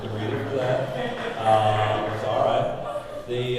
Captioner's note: audience laughing